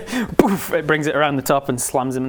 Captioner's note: boof